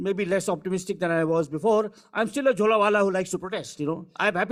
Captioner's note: speaking foreign language